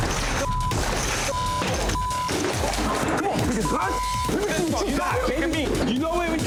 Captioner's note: beep